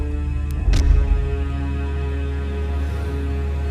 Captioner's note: thudding